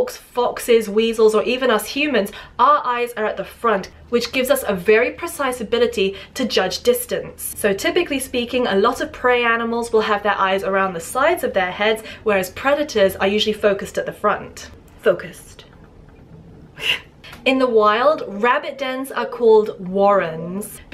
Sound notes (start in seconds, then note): 16.8 giggle